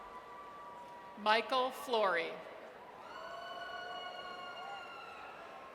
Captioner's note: audience cheers